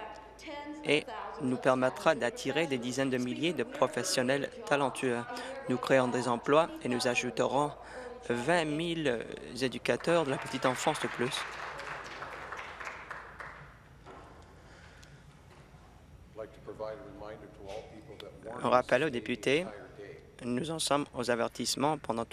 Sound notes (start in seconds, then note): 13.1 applause